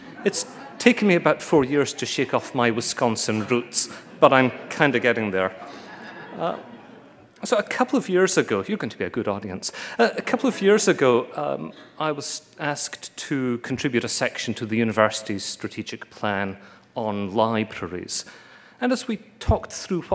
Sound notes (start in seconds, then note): 6.0 laughter